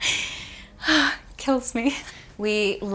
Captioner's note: sighs